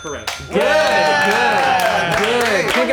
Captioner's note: everyone clapping